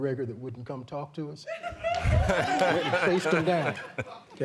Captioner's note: laughter